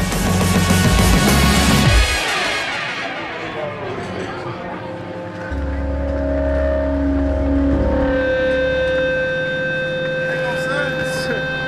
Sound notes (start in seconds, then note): 0.0 upbeat music; 3.2 indistinct chatter; 5.5 ambient music